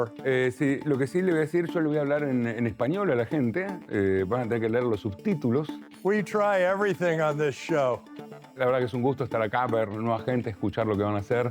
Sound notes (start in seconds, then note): 0.3 Spanish; 8.5 Spanish